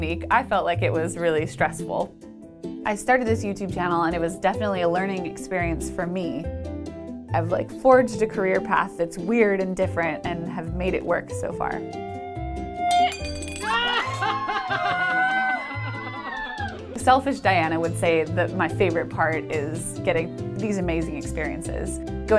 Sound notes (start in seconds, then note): 12.9 glass breaking; 13.3 laughing and cheering